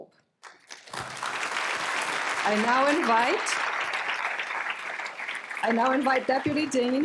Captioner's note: applause